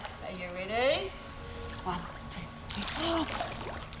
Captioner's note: gasps